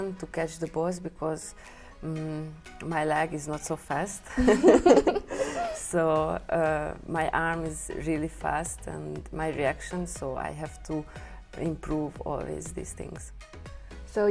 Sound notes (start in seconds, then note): 3.9 laughs